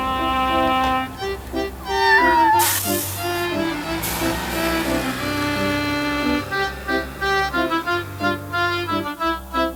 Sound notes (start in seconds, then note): 1.9 cat meows; 4.2 engine roars; 7.1 upbeat music